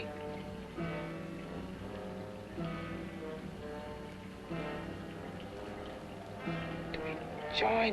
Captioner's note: liquids bubbling; ominous music